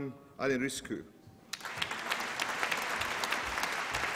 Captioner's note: applause